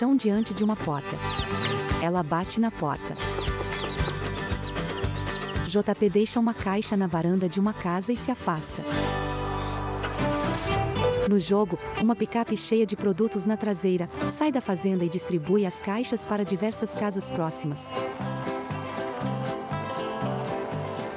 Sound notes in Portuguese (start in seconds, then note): 0.0 Pássaros